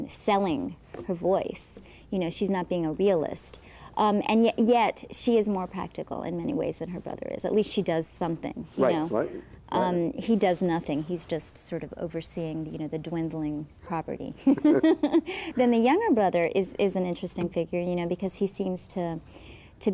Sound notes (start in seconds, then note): 14.4 laughing